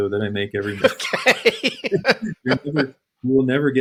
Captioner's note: laughs